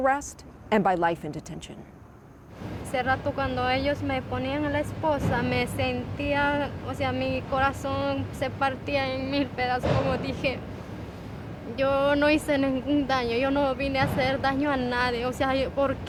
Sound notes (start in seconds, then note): 2.5 Spanish